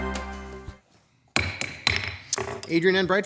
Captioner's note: gavel banging